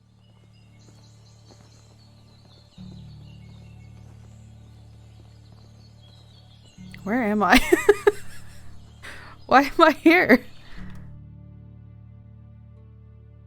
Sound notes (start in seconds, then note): 7.0 laughs